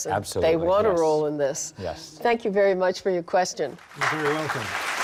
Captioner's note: audience applauds